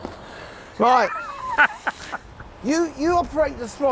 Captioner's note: laughs